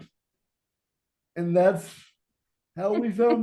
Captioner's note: laughing